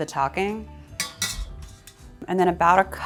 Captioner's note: pot clanging